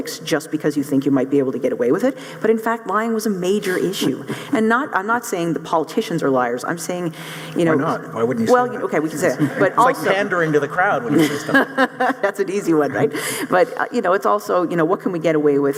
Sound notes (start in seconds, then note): 11.0 laughs